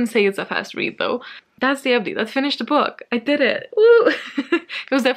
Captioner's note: laughs